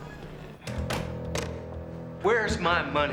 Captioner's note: door closing